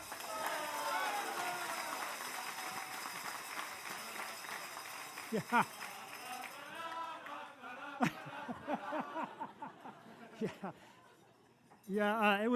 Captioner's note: applause